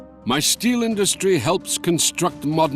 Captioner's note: Voz en off